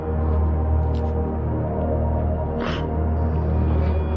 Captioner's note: cryining